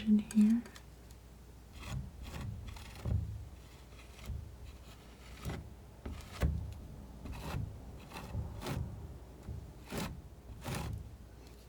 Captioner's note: scratching